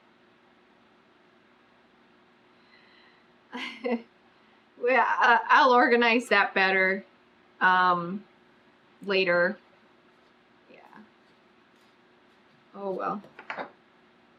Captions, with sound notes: [LAUGHS] WELL I'LL ORGANIZE THAT BETTER UM LATER YEAH OH WELL